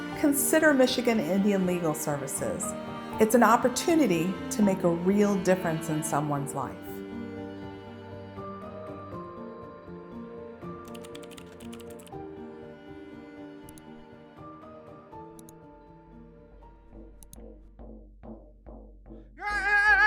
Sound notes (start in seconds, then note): 10.8 typing; 13.6 clicking